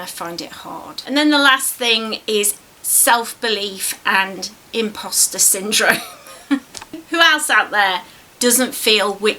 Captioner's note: laughs